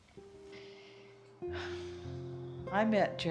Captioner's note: takes a breath